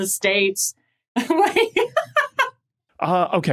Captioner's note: laughs